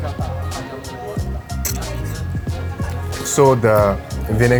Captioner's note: slurping of crab claw